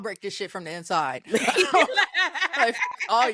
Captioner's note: laughing